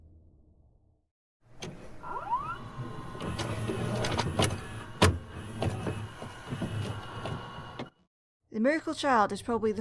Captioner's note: VHS noises